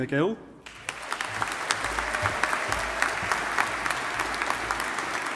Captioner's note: audience applauding